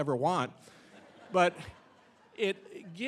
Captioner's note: audience laughing